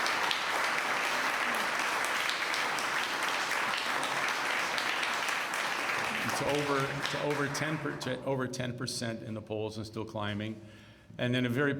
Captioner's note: cheers and applause